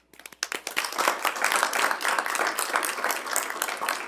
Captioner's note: everyone claps